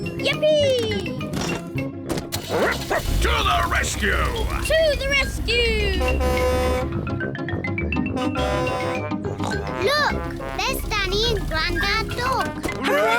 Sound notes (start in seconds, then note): 2.4 barks; 5.3 horn blares; 9.3 snorts